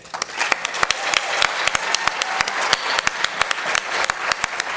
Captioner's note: applause